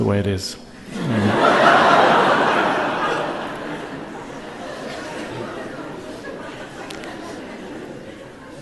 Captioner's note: laughter